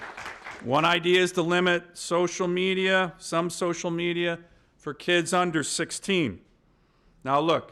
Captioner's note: applause